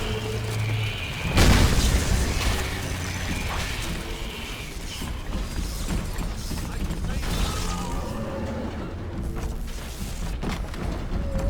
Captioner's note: gun fires